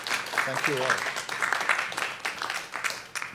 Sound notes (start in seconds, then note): 0.0 applause